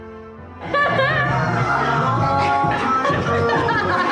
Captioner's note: laughs